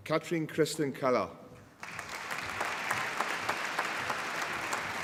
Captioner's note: applause